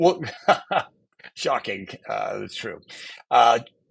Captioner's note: chuckles